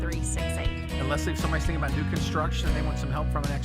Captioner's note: voiceover